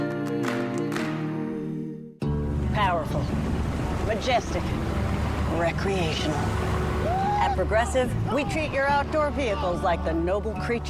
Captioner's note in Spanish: aplaudir aplaudir